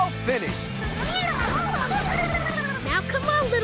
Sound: squeaking

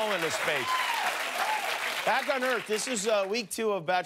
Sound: cheers and applause

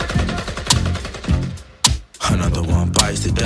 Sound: shots fired

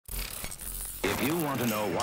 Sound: static hissing

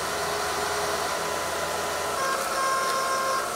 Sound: metal grinding

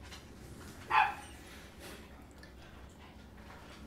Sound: dog barking

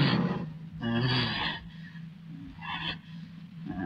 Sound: gasping

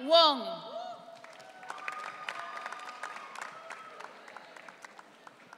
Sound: audience cheering

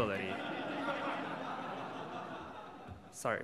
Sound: audience laughs

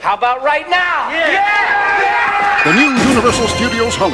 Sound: inmates cheering

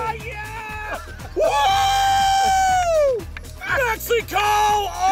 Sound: cheering

